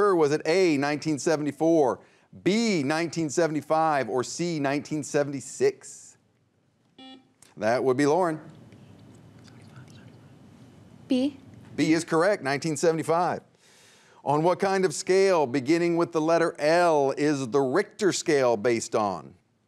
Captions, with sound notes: Was it A, 1974, B, 1975, or C, 1976? (buzzer beeps) That would be Lauren (teammates whisper) - B. - B is correct, 1975. On what kind of scale, beginning with the letter L, is the Richter scale based on?